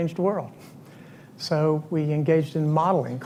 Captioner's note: none